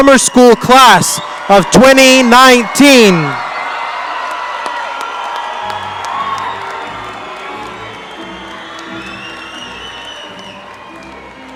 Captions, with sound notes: Summer School class of 2019. (audience cheer and applaud) (orchestral music)